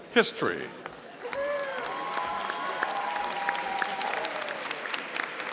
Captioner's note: audience applauding